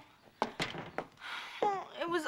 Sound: groaning

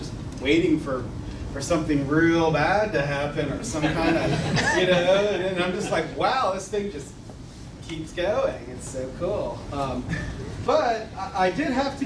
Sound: laughter

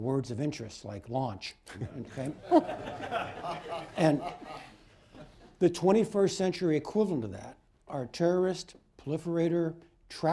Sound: laughter

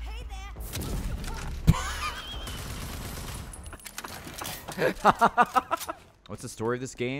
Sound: laughs

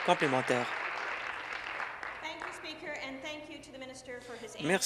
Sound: applause

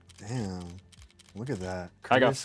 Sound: camera shutter firing

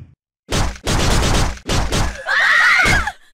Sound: heavy thumping; stabbing sounds; Morgan's scream

